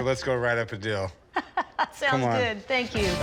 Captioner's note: laughs